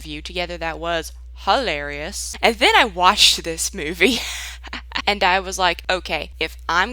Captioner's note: laughs